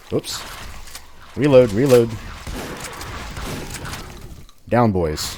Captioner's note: shotgunning like mad